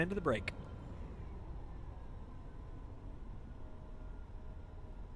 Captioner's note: plane whirring